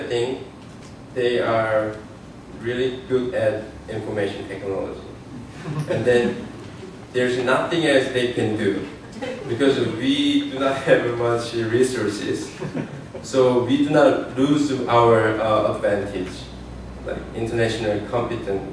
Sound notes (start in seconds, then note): 9.8 laughter